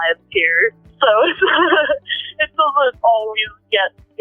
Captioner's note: laughs